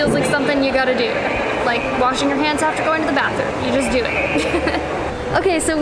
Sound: laughs

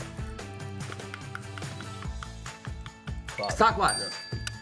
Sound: tongue clicking

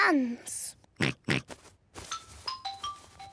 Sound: oinks

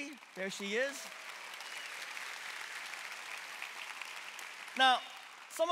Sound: congregation clapping

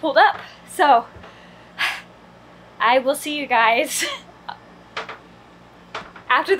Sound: sighs; laughs

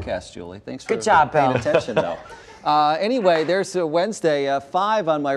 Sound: laughter

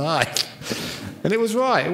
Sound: laughs

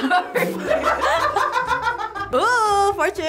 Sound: everyone laughs

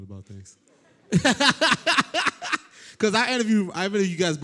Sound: laughter

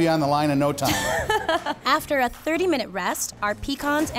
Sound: laughing

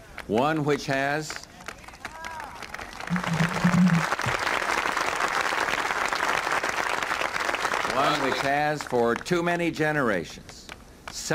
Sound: applause

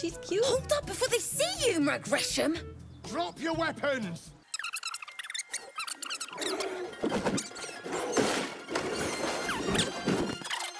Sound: sped up cutscene squaking

